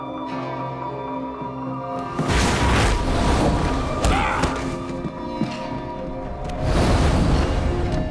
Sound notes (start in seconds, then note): 3.5 groaning